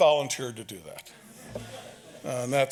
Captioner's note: audience laughs